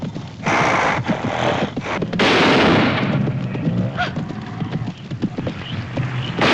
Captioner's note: gasps; snorting